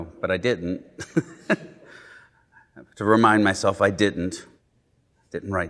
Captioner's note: laughing